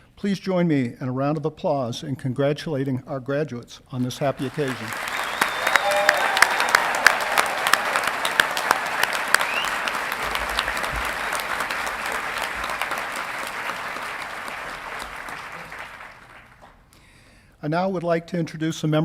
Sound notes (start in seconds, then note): 5.1 audience clapping and cheering